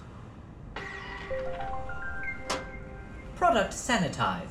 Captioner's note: object dispensing; confirmation tune